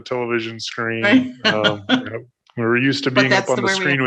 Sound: laughs

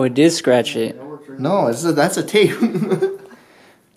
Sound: laughs

